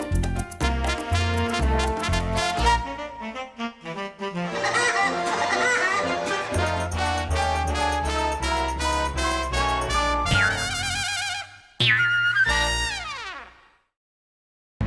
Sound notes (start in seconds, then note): 4.5 woody laughing; 10.3 spring boinging